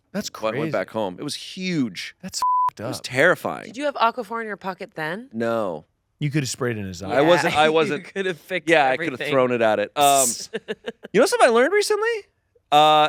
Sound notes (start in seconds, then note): 2.4 beep